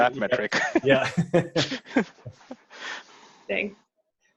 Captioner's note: both laugh